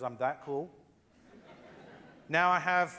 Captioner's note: loud laughter